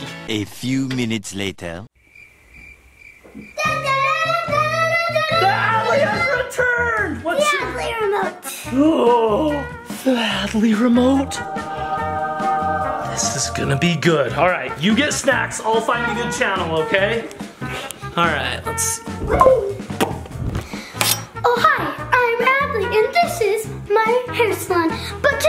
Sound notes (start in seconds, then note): 1.9 crickets chirping; 9.9 choir music; 11.2 gasps; 19.2 dad popping